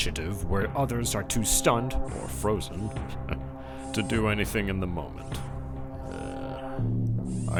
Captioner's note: chuckles